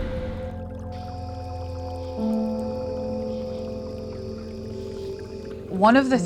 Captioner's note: background water sounds